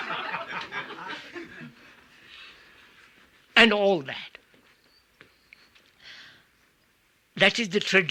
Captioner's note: laughter